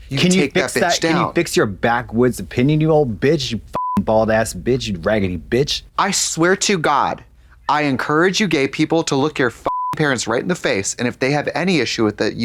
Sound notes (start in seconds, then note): 3.8 beep; 9.6 beep